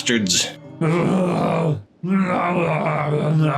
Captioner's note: speaking in Angu